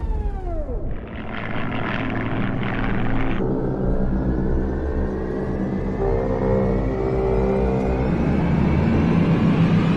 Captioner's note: roar of planes